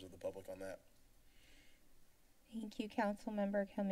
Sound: silence

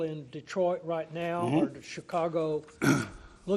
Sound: clearing throat

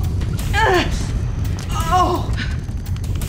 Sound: groaning

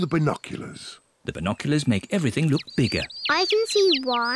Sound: chirping

